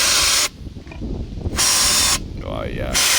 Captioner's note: air blowing